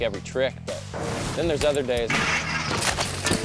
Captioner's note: metal clangs; bike thuds; biker thuds